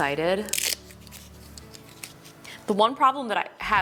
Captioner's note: velcro snapping